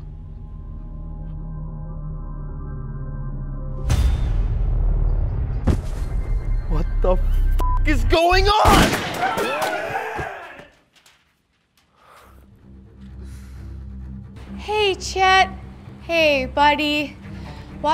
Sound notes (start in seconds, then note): 8.6 gunshots; 9.0 people screech; 11.9 sigh